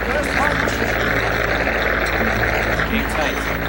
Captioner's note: crowd applauds